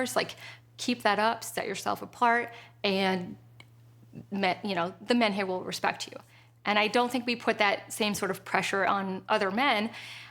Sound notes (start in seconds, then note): none